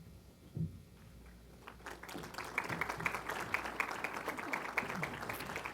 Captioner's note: applause